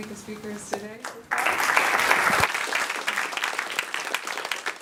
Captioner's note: applause